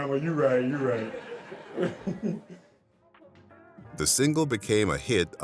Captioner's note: laughs